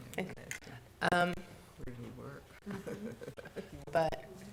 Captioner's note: board chatting quietly